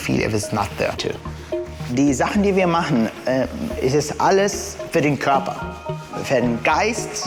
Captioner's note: in German